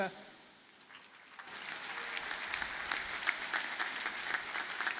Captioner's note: audience applauding